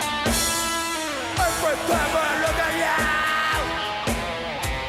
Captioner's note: screams